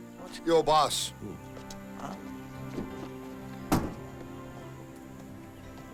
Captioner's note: overlapping chattering